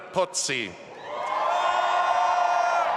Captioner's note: audience applauding and cheering